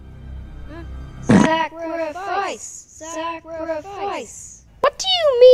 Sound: chanting

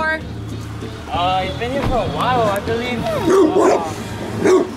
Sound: barks

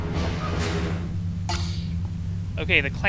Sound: clank whoosh

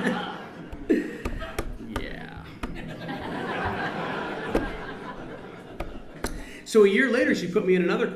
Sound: laughs

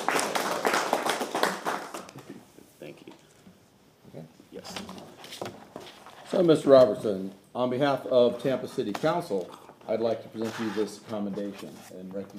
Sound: applause

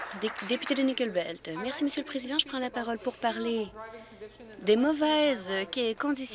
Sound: some Applause

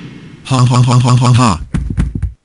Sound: gunshots; body falls

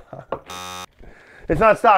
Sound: buzzer

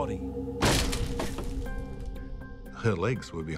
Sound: door thuds

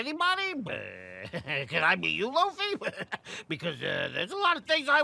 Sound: laughs

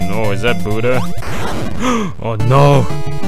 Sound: gasp

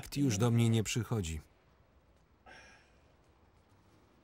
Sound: sighing

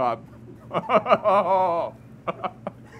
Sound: evil laughter

